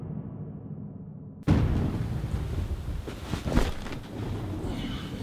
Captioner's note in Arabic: صوت الرعد